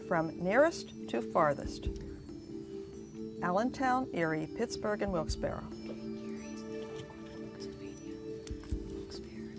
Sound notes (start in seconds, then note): 6.4 whispering